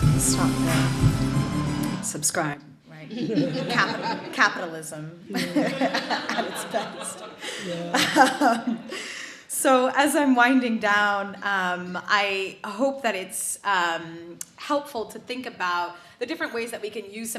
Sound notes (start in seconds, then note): 0.0 hip hop music; 3.1 audience laughs